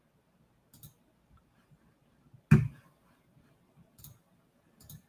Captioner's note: computer mouse clicking